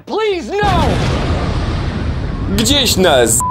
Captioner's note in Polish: boom!